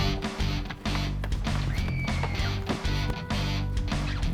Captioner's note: more screaming in background